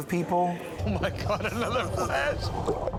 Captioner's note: chuckling